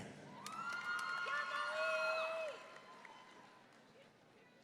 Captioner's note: audience cheering